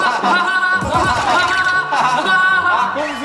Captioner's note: haha Haha; hahahaha